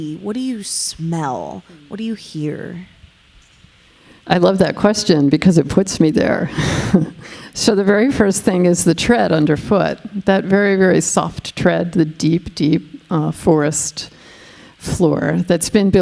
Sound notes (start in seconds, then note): 6.5 chuckling